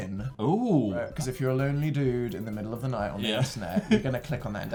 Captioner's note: chuckles